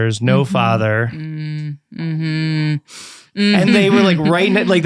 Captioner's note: making disappointed sounds